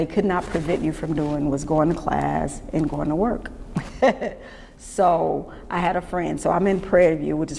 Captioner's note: laughs